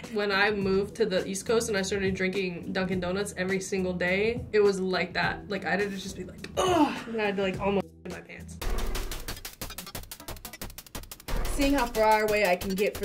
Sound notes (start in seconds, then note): 6.6 groans; 8.0 thrilling music